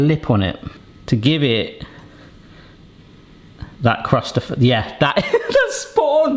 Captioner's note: chuckles